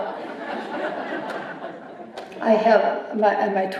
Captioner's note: laughter